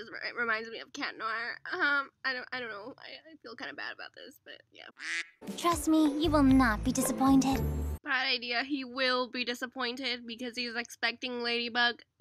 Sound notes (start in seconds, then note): 5.0 quack; 5.4 bright music